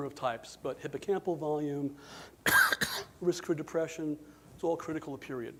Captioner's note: coughs